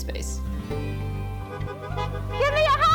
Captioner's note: car honking